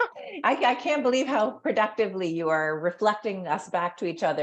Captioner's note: laugh